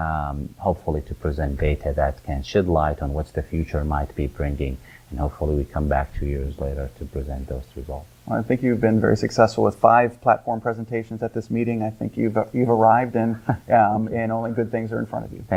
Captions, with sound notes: hopefully to present data that can shed light on what the future might be bringing, and hopefully we come back two years later to present those results. - I think you've been very successful with five platform presentations at this meeting. I think you've arrived. - (laughs) - And only good things are in front of you.